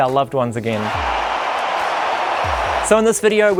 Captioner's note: crowd cheers